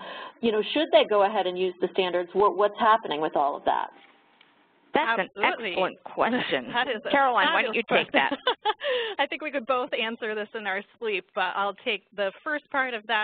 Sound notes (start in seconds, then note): 6.3 laughter